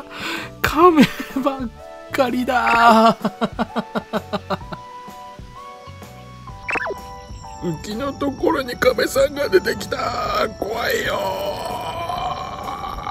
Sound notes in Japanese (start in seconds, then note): 2.7 笑い